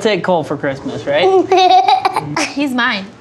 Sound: laughs

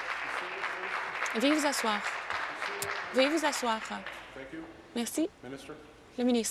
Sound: applause

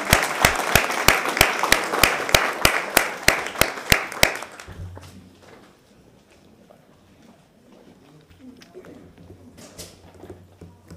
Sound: applause

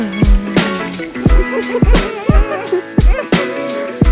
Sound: laughter

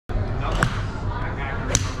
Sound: golf club whacks; people chattering; golf club whacks

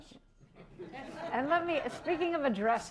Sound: laughter

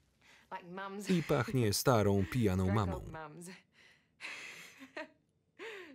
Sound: laughs loudly

